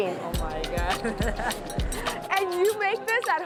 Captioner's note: laughs